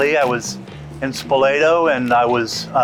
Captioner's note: none